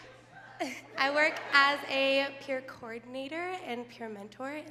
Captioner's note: laughs